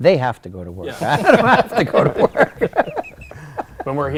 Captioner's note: laughter